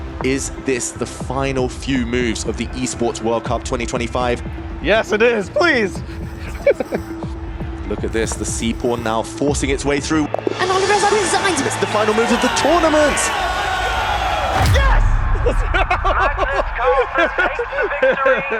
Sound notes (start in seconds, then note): 4.9 chuckles; 13.6 crowd cheering; 14.6 laughing; 16.0 commentator 1 over phone